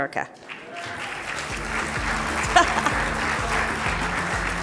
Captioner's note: audience applauding